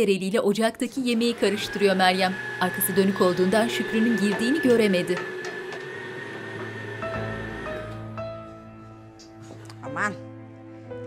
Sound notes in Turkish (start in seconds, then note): 1.0 Mutfak robotu sesi